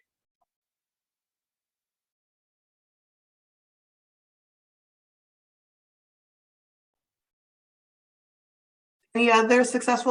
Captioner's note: silence